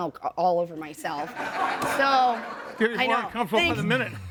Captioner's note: audience laughing